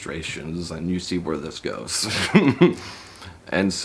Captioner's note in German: lacht